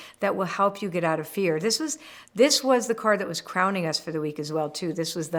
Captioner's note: none